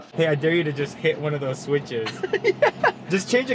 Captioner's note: laughs